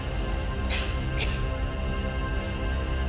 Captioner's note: coughs